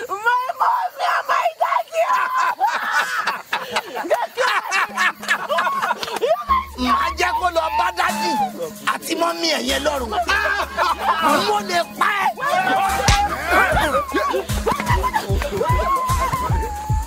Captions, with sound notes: - My mommy and my daddy, oh. (Ekong laughing) (Ekong speaking in foreign language) (punch thuds)